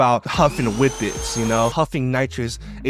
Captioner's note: vacuum cleaner whirring